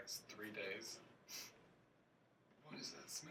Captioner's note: sniffs